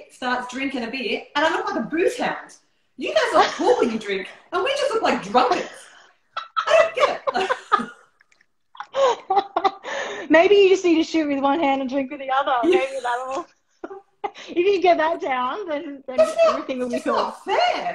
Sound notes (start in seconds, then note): 6.3 laughter